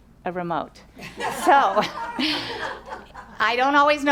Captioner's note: audience laughs